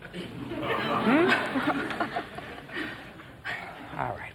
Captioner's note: audience laughing